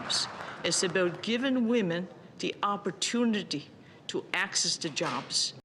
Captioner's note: applause